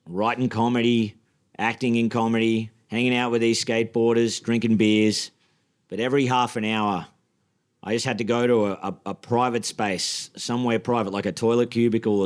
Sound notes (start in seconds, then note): none